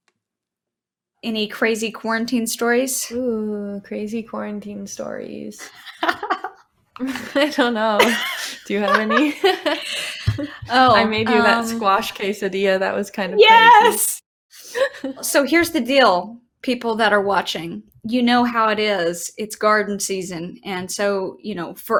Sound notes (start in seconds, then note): 5.6 laughing